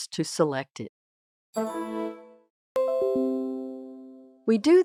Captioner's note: computer notification noises